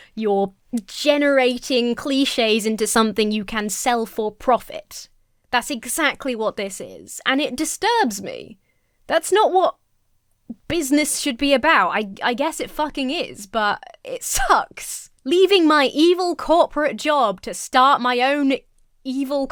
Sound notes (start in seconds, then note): none